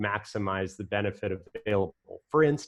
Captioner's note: voice muffled